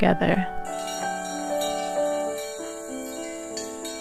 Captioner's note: cow bells